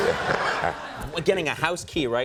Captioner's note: laughs